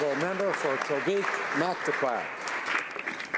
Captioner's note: some Applause